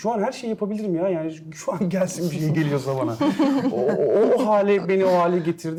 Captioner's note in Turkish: kahkaha